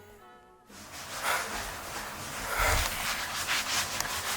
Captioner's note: rubbing sounds